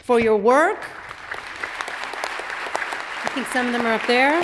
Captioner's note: audience applauds